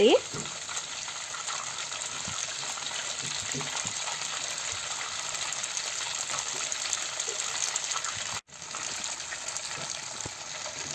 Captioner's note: boiling ghee sound